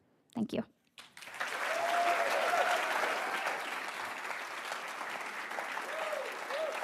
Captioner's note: attendees cheering and applauding